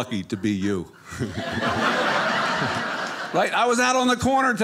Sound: audience laughing

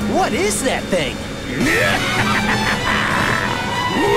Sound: laughing

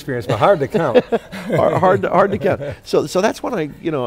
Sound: laughs

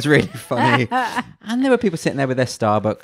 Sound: laughs loudly

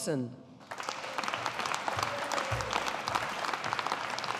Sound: audience applauding

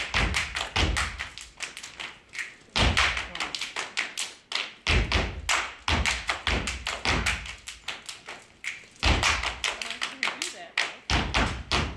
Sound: applause

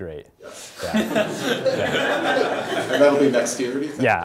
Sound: laugh

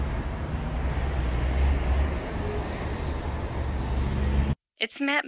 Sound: bus engine roaring

